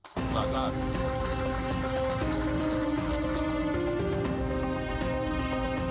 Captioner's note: dramatic music playing; audience applaud